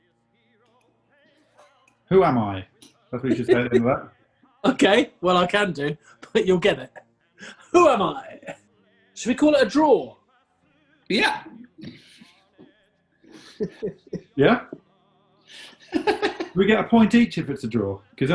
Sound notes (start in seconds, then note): 13.2 chuckling; 15.5 giggling